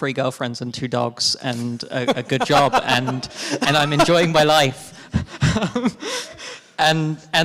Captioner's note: laughs